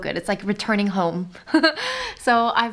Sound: laughing

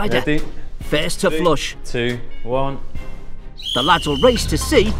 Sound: whistle blows

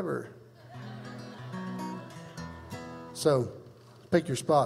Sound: crowd laughs

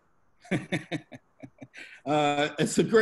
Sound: laughs

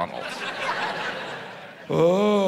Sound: audience laughs

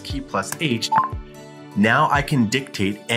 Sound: computer chimes

